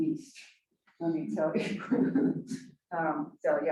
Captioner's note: chuckles